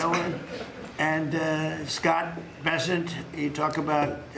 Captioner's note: laughter